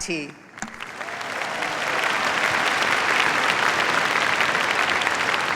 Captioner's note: applause